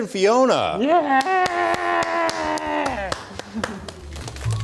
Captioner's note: applause